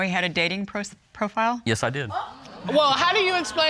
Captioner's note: audience exclaims